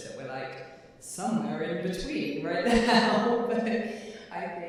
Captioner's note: laughing